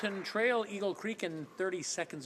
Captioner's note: applause